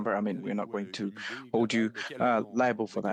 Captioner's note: speaking French